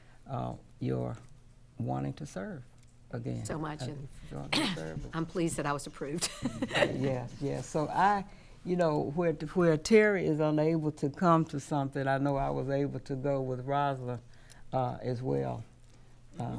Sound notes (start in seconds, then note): 4.4 coughs; 6.2 laughing